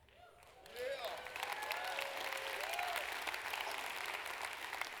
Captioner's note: applause